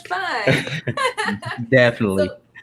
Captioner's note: laughing